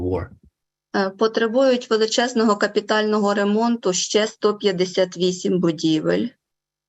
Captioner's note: foreign Language Spoken